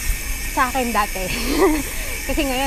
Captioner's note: laughs